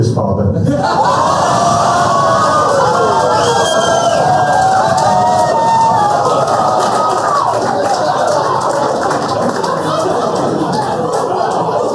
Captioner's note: laughter